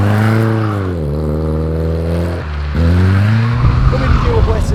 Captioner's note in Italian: continuo stridio degli pneumatici